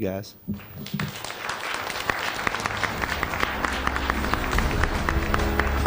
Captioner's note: applause; closing music